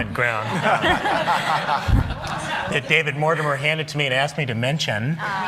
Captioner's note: laughter